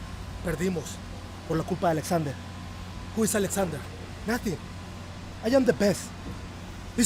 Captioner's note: speaking spanish